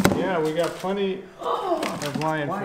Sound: gasp

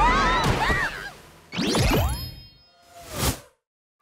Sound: screaming

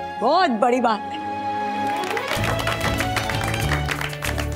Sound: applauding

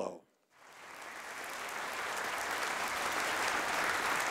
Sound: audience applauding

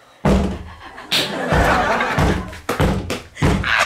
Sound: banging on the door out of anger

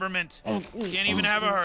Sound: grunting

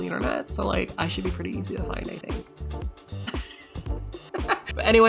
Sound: laughs

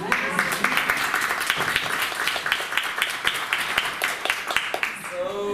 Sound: applause

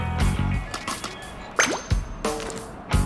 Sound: high pitched ping

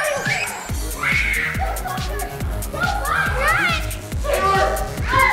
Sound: girls screaming

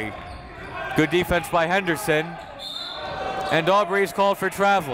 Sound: whistle

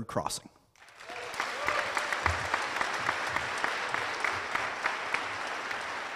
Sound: cheers and applause

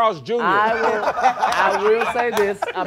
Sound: laughing

